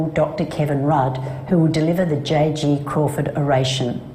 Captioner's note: non-english speech